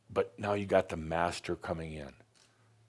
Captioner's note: none